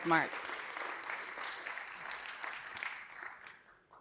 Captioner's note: audience applauding